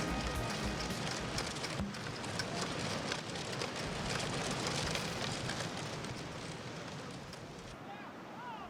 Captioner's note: music concludes; reel rattling